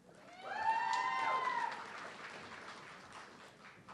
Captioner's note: audience cheering